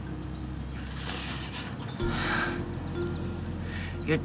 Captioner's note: sighs